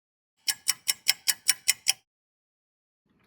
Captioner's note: sound of a ticking clock